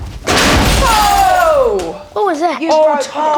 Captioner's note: glass smashes